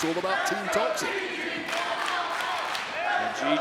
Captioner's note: clapping